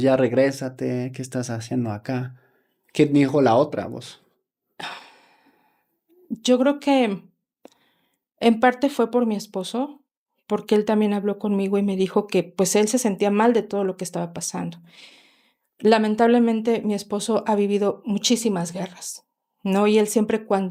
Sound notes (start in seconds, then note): 4.8 sigh